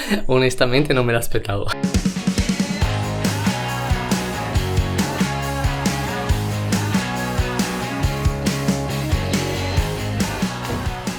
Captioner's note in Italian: Applauso